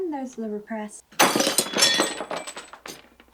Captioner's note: smash